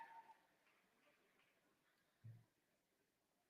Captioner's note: applause